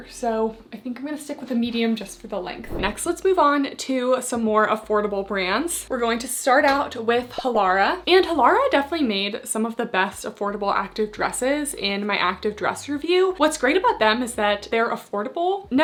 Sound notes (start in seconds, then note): 2.6 screen whooshing; 7.4 graphics beeping